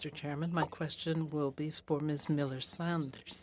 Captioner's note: speaking French